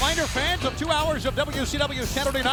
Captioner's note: crowd chatter